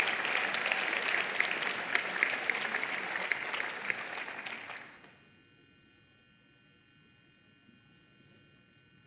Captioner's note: applause